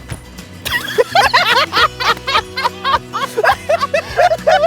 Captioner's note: laughing